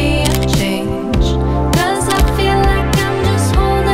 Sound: camera clicks

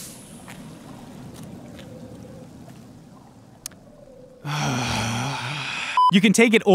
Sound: beleaguered sigh

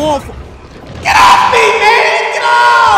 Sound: voice with reverb

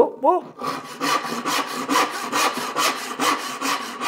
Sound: saw rasping

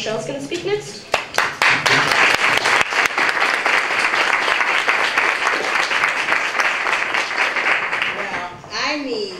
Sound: applause

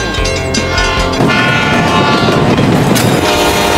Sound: train Horn

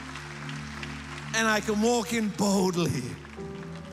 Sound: applause

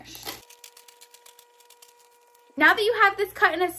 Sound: cutting

